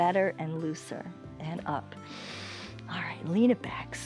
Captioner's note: inhales